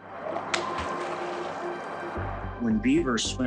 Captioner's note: birds chirping; gentle suspenseful music; water splashing